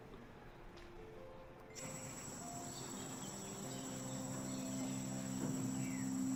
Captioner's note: birds squawking